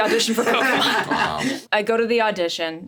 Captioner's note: Richard laughs; laughs